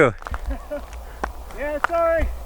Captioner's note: laughs